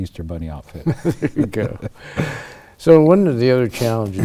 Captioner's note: laughs